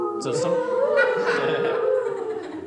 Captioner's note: laughing